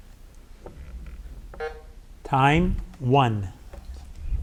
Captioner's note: button buzzing